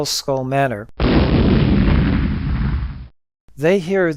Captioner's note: boom